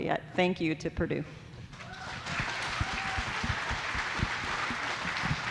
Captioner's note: audience applauding